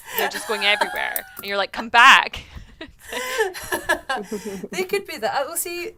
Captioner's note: laughs